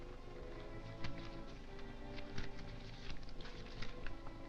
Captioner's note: papers rustling